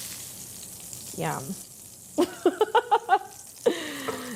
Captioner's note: laughing